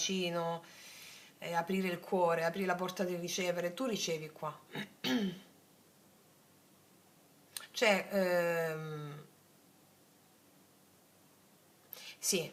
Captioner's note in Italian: schiarire la voce